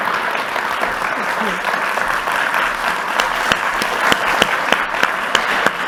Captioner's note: audience applauding continues